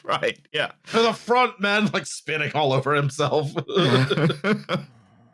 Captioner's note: laughing; mouth-full voice; laughs